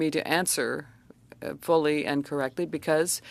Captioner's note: speaking French